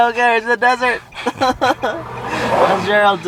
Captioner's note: laughing loudly